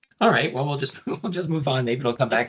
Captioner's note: chuckling